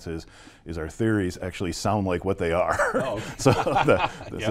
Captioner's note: laughs